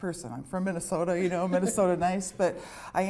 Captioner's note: laughter